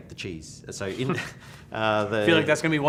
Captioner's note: both laugh